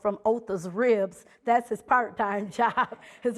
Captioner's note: laughing